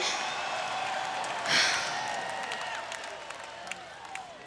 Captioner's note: huffing